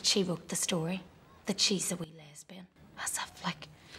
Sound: whispers

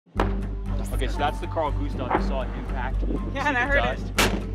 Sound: bang

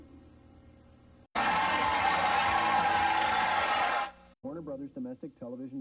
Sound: applause and music

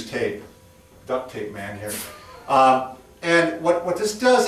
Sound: chuckles

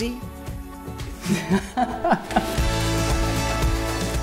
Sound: laughs

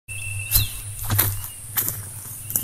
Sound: footsteps

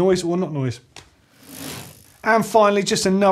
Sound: bicycle wheel whirring

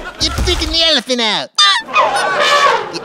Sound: squeak

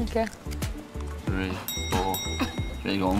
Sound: bell dings

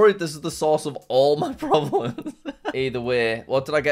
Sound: laughs

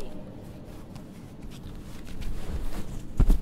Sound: shifting around in bed

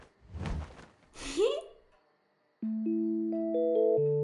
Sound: giggles; gentle, playful music

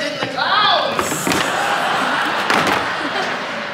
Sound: helmets thudding

